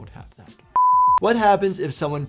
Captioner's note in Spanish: pitido en pantalla